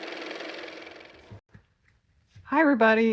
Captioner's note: car motor